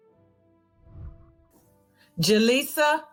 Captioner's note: whooshing